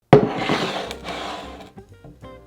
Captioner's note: bowl sliding; jazz music playing in background throughout video